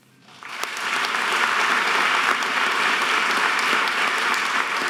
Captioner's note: audience applause